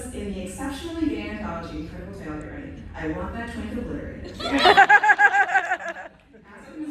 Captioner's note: laughter